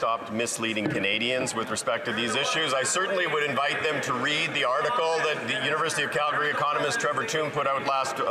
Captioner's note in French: voix de l'interprète